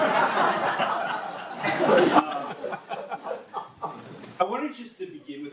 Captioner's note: audience laughing